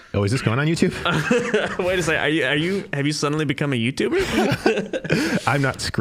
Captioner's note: laughing